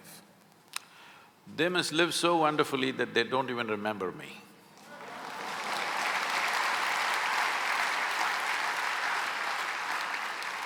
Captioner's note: laughter/Applause